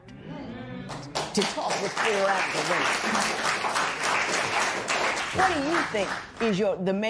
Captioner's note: applause